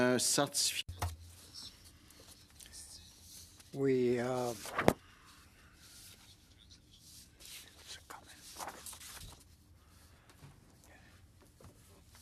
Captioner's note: speaking French